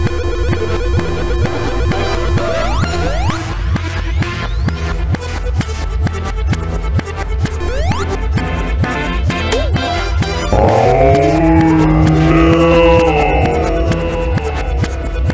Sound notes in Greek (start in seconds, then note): 10.6 Μιλάει σε αργή κίνηση